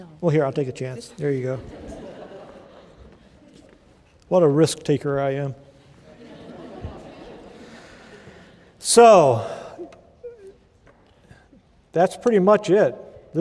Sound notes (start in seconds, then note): 5.9 laughter